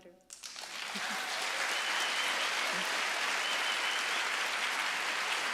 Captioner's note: audience applauding